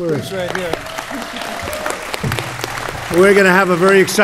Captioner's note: applause